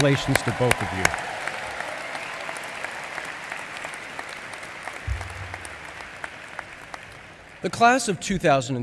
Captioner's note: applause